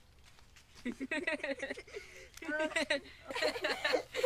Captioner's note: boys laughing